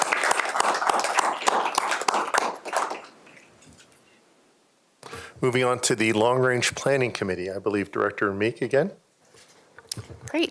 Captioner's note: applause